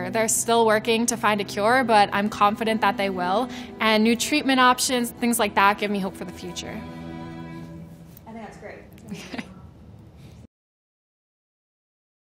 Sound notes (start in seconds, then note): 9.0 laughing